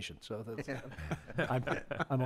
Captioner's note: members laugh